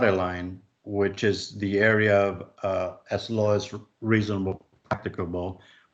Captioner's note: chuckles